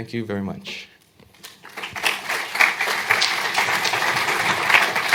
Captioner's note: applause